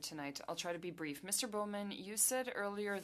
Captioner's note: speaking French